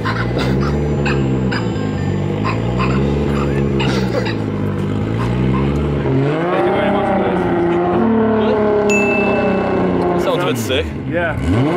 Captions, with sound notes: (dogs barking) Thank you very much guys. (bell dings) Sounds a bit sick. - Yeah.